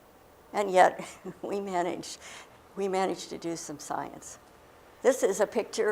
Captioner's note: chuckle